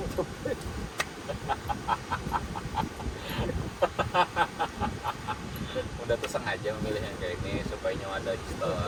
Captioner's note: laughs